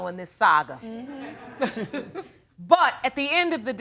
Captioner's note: laughter